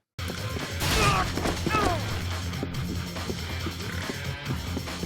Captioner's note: man shouting